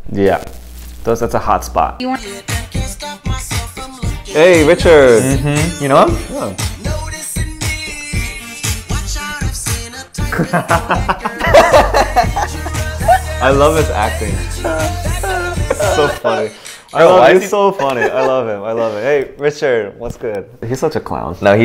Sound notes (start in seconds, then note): 10.2 both laughing